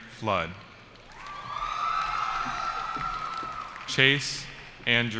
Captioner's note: cheering